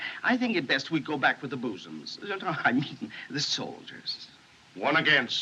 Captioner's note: stammers